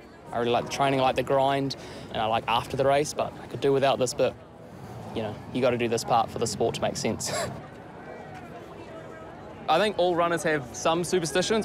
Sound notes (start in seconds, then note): 8.9 chuckles